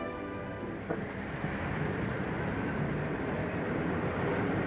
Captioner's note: engines rumbling